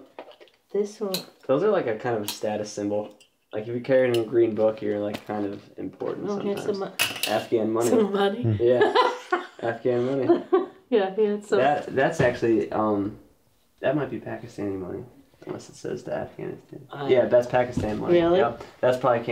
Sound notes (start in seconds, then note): 8.4 laughs